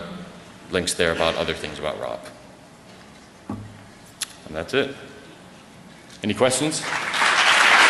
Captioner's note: applause